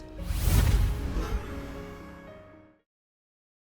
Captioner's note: swooshing